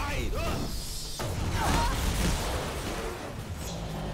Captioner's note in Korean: 무너지는 소리; 비명 소리들